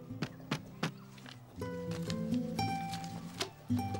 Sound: knocking

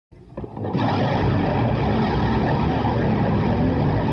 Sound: motorbikes revving

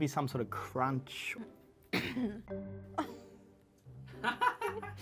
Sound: choking, clearing throat; laughing in the background

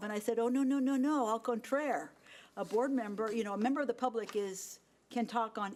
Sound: speaking in foreign language

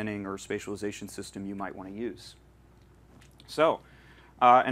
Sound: none

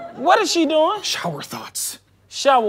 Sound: whispers

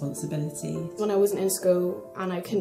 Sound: voiceover

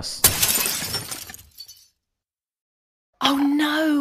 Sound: glass breaking noises

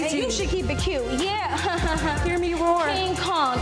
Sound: laughs

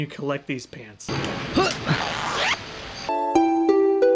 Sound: zipper loudly zipping

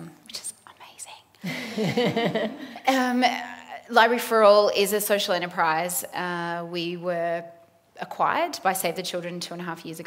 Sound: laughter

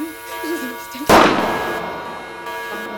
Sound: gun shot

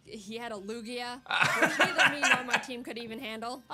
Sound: laughs

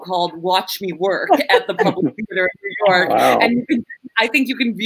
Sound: laughing; audio glitches

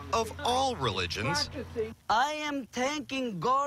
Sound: speaking foreign language

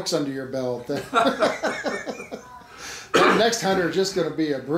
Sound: laughing

